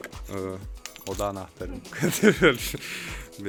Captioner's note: laughs